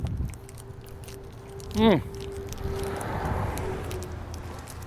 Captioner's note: candy wrapper rattling